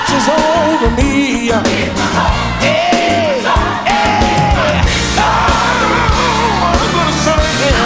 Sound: ohhhh

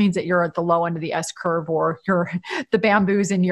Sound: laughs

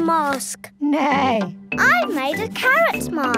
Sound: imitates horse whinnying

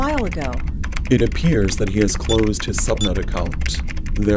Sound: typing

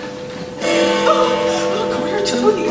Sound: Big Ben tolls

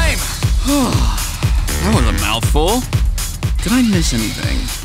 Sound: exhales

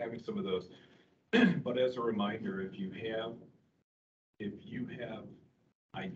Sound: clears throat

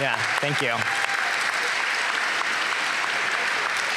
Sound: applause

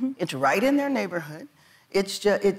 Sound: none

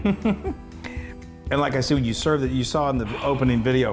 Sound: laugh

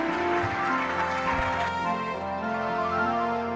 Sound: music and applause

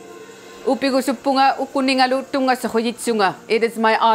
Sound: speaks in inuktitut

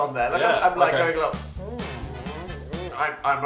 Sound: muffled creepy mouth noises from both; old voice

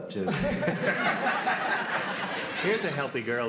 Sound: laughter

